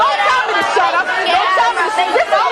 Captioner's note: audience hollering